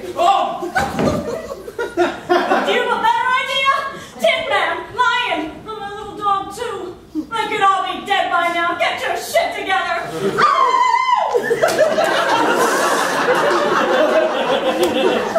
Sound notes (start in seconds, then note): 0.6 audience laughing; 10.4 screams a war cry; 11.3 audience laughing